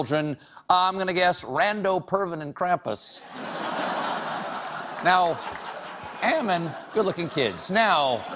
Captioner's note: laughter